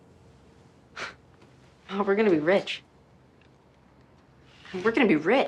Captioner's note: scoffing